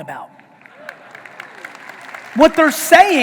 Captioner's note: audience applauding